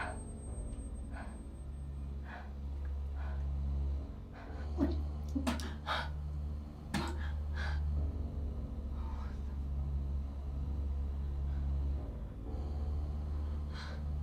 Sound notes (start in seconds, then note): 5.3 Sarah spits